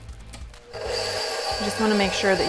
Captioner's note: mixer whirring